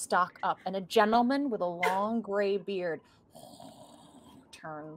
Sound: wheezing

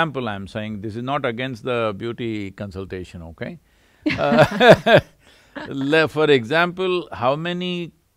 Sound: both laugh

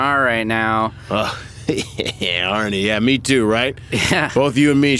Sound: laughs; laughs

